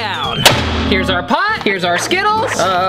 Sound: metal thumping

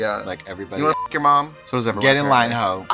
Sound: beep

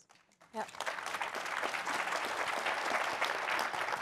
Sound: audience applauding

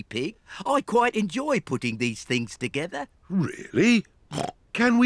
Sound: snorts

